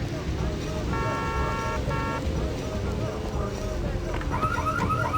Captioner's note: horns blaring; car alarm blaring